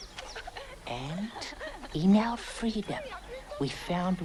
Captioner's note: girls laughing